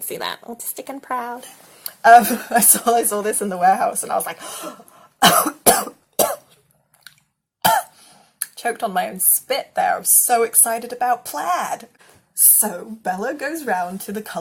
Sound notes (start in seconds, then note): 5.2 coughing; 6.4 gasp